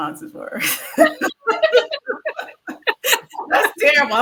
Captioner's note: all laugh